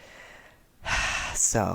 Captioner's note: sigh